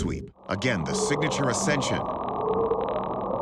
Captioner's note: faint bwoop